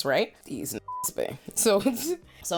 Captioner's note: beep